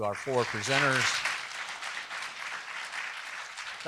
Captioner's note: applause